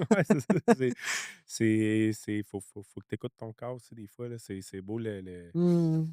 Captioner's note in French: rires